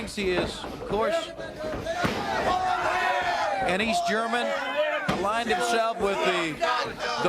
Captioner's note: crowd chatter